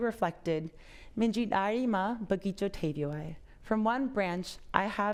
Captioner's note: speaking foreign language